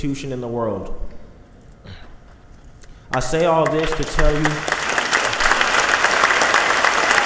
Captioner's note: clapping